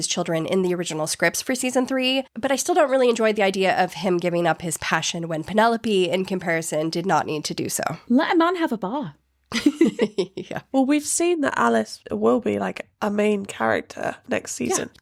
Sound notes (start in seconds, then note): 9.5 both laughing